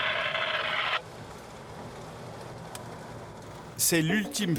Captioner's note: Arabic spoken audio